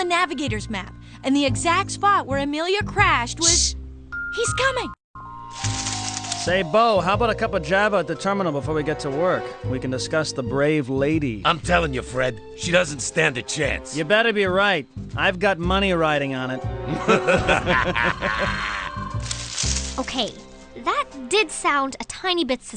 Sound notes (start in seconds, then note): 16.8 laughter